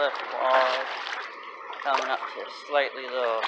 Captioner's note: splashing